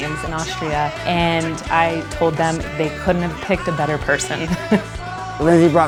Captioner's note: laughs